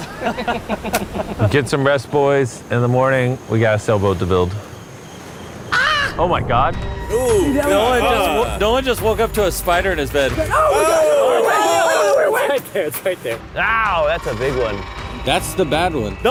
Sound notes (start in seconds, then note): 0.0 all laughing; 5.7 screams; 10.6 all shouting